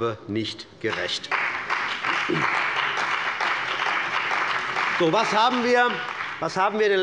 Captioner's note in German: Beifall bei der CDU und dem BÜNDNIS 90/DIE GRÜNEN